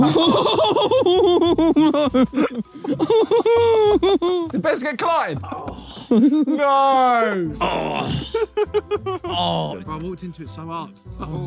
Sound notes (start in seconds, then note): 0.0 all laughing; 4.7 indistinct chattering